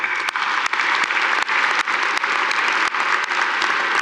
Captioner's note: audience applauding